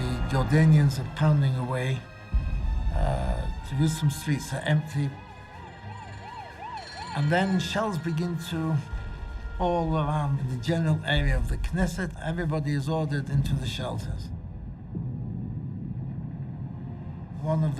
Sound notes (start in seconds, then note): 6.0 emergency vehicle sirens blaring; 15.1 muffled explosions